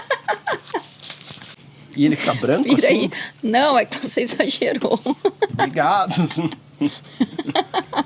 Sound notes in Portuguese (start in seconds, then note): 6.8 risadas